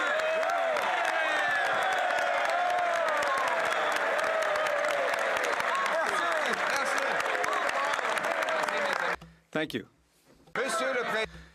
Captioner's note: some Applause